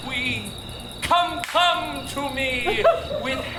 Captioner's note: pat pat